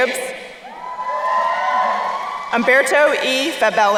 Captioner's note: crowd cheering